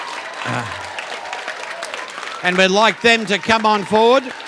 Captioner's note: cheering and Applause